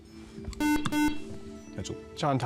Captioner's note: buzzer